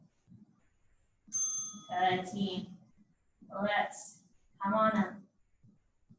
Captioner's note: ding